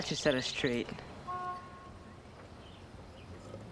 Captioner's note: honk of a truck